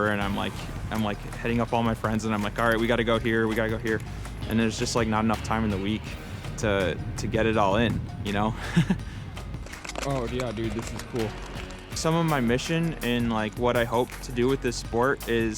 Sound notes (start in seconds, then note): 8.6 laughs